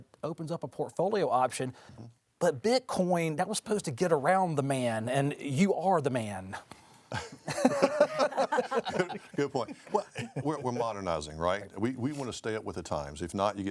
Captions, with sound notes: and it opens up a portfolio option. But Bitcoin, that was supposed to get around the man, and you are the man. [host and panelists laugh] - Good point. Well, we're modernizing, right? We wanna stay up with the times.